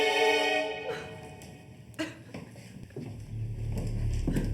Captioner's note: suspenseful music; woman crying; ominous music